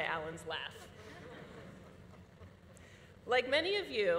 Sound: audience laughing

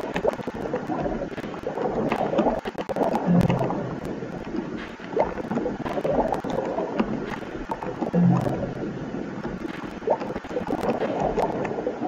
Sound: sound of submarine; whispering; sound of submarine

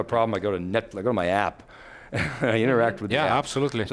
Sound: laughs

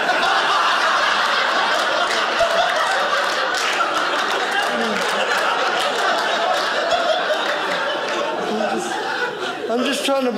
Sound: audience laughing

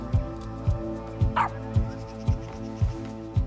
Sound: bark

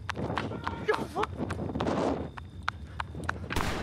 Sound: Ty yelling in the distance; gun firing in the distance

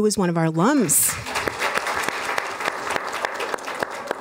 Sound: applause

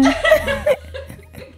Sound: woman laughing

